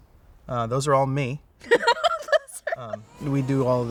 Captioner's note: laughs